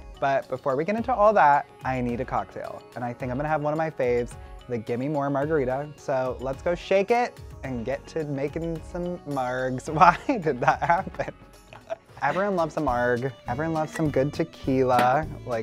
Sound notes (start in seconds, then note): 8.1 stumbling on his words; 11.7 laughing